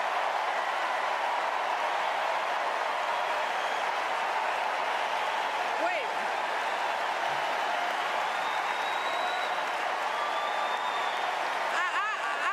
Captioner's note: cheers and applause